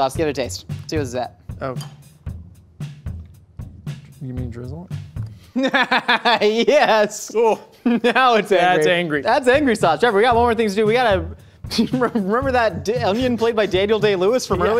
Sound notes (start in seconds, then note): 5.5 laughs